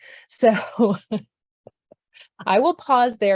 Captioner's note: laughs